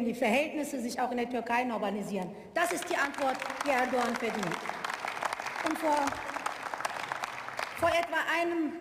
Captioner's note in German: Beifall